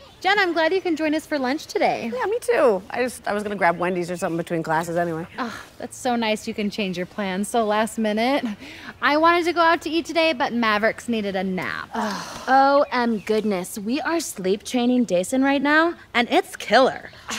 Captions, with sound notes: Jen, I'm glad you can join us for lunch today. Yeah, me too. I just- I was going to grab Wendy's or something between classes anyway. Aw, that's so nice you can change your plans so last-minute. I wanted to go out to eat today, but Mavericks needed a nap. [all sigh] O-M-Goodness, we are sleep-training Dayson right now, and it's killer.